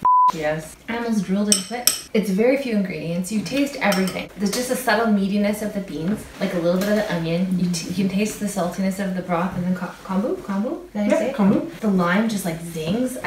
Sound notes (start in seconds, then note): 1.5 spoon clatters